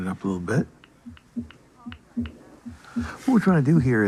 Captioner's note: heart beating